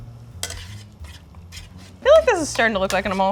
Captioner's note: pan scraping